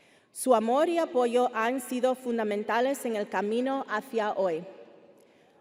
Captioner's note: speaking Spanish continues